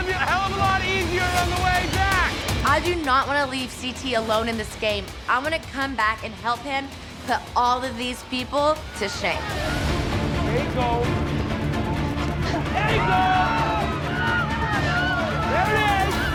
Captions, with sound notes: - It's going to be a hell of a lot easier on the way back! - I do not want to leave CT alone in this game. I'm going to come back and help him put all of these people to to shame. (dramatic music) (crowd cheering)